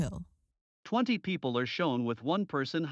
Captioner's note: voiceover